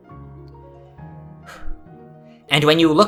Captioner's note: exhale